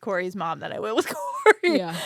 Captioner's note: laughs